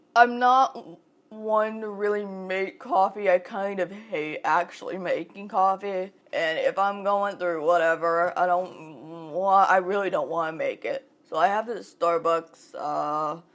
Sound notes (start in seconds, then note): none